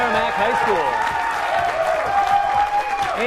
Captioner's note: cheering